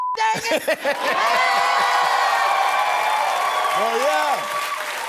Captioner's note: cheering